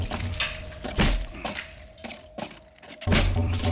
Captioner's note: grunting